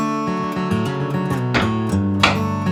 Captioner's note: hammer bangs; tools whir and bang